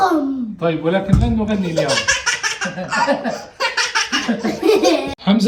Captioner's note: laughs